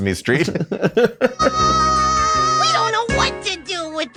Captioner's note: laughs